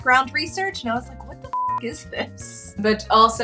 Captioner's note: beep